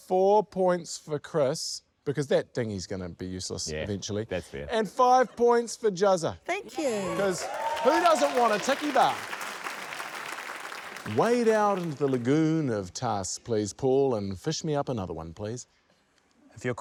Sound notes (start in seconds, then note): 9.8 cheers, applause